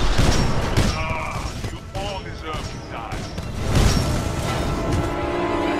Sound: radio

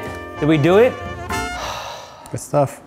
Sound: sighing

